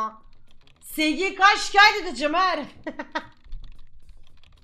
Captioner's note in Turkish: gülme